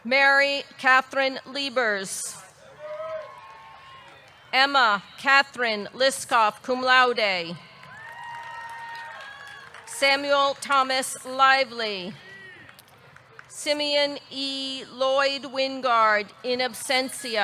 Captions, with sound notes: Mary Katherine Liebers. (audience cheering) (audience clapping) Emma Catherine Liskov, cum laude. (audience cheering) (audience clapping) Samuel Thomas Lively. Simeon E. Lloyd-Wingard, in absentia.